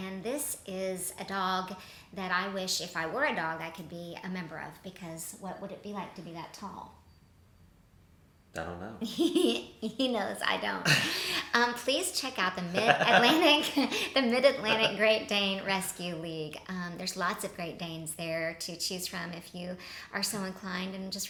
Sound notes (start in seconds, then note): 9.6 chuckles; 12.6 laughs